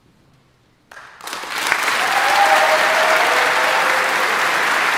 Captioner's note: audience applauding